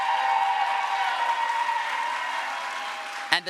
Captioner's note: crowd applause